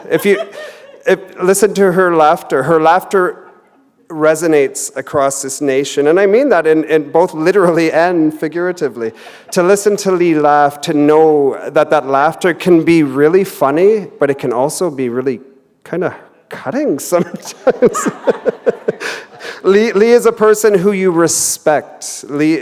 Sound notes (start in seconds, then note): 17.1 laughter